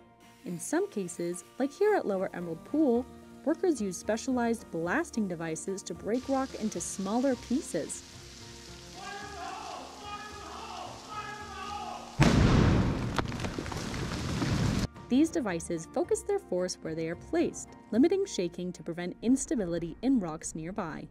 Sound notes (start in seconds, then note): 12.2 boom